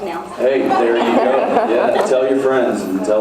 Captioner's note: laughs